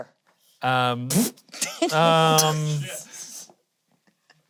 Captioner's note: laughing